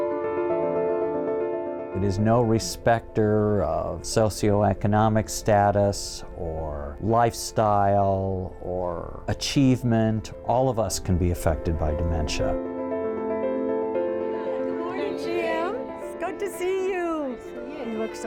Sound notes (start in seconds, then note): 2.1 voiceover